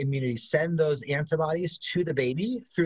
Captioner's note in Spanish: hablan inglés